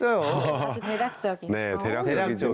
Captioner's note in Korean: ㅎㅎㅎㅎㅎㅎㅎ